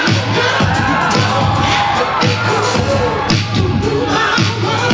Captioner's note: audience cheers